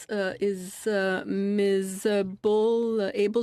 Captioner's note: speaking French